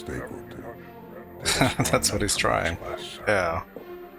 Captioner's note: chuckling